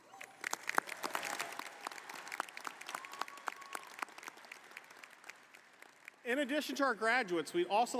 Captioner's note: applause